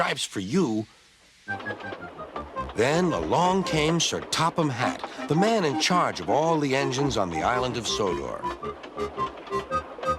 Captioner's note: passenger train clatters